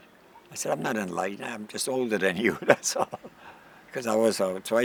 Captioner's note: chuckles